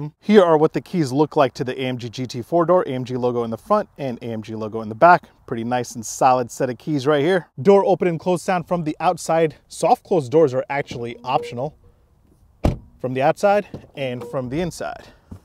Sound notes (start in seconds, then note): 12.6 car door thuds